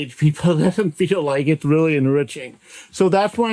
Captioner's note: laughs